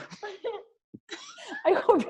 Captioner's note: laughs